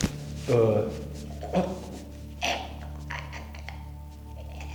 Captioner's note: gagging